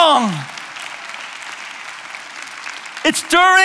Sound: applause

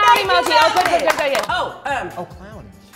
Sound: they clap

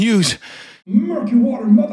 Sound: deep Breath

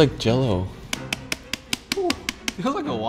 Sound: knife thudding

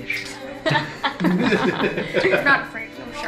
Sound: laughing

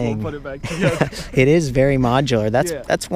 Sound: both laughing

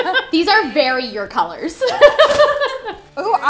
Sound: laughter

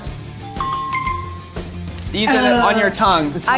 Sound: app chimes

